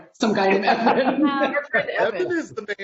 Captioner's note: laughing